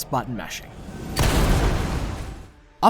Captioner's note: boom